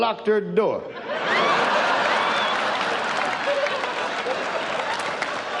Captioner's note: audience laughs